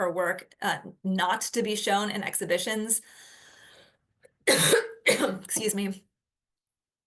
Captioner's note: coughs